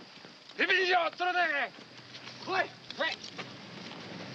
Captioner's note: speaking Japanese